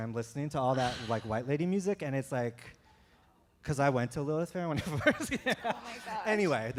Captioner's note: chuckle